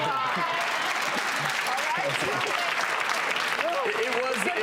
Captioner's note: audience applauds